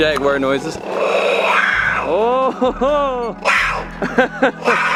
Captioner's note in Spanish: Ruido jaguar